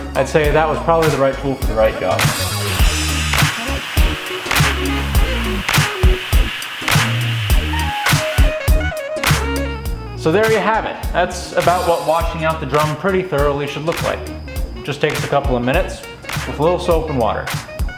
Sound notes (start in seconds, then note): 2.0 water splashing; 2.6 upbeat hip hop music